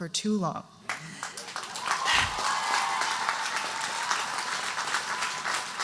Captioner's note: audience cheering and applauding